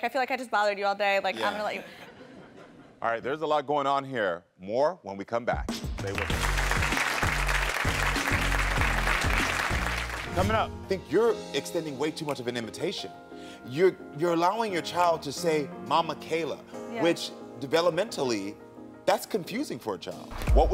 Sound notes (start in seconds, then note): 6.0 audience applauding